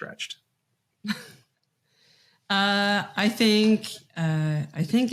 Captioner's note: chuckles